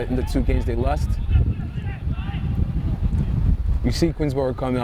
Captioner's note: players shouting